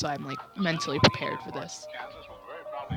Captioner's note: mic noise